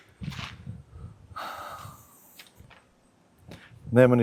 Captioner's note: sigh; surprised gasp